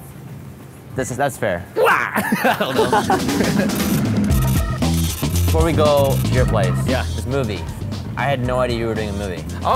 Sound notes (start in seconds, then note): 1.8 laughs